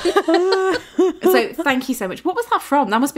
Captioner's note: laughing